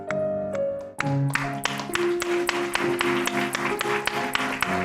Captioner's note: applause